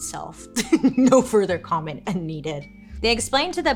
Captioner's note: laughs